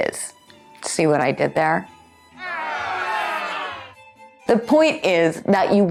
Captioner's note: booing sounds